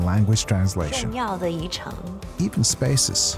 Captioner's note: speaking in foreign language